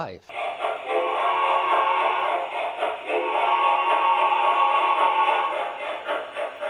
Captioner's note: train whistles